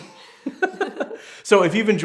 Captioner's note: laughing